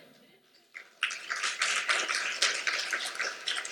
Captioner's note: applause